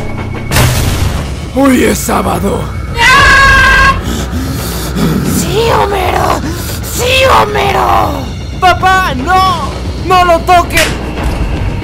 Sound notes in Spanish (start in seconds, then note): 2.9 gritos de dolor